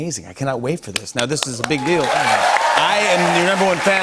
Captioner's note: cheers and applause